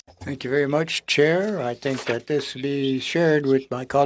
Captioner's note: speaking French